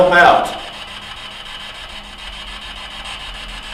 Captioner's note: static buzzing